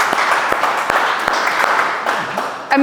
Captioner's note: applause